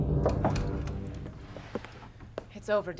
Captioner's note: knocking